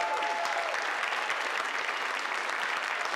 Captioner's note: applause